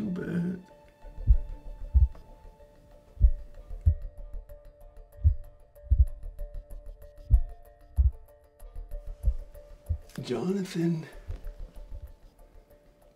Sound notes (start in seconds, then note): 0.9 Adam's heartbeat in slow motion